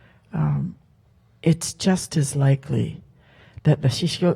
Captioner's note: speaks Halkomelem